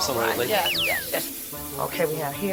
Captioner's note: slide whistle plays plays